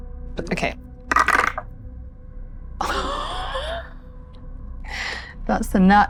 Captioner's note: laughs